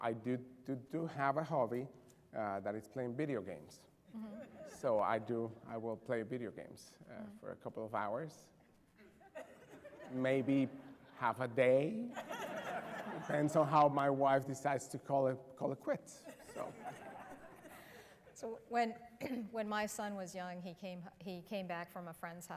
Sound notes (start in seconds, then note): 9.3 laughter; 16.1 laughter